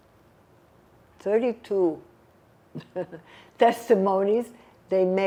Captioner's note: laughing